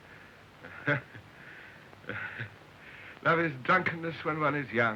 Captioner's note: chuckling